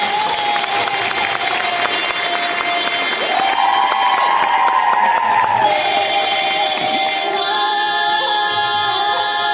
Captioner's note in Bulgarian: аплодисменти